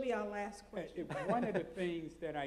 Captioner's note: laughs